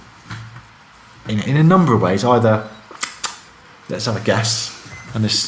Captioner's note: smacks